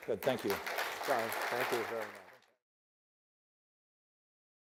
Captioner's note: audience applause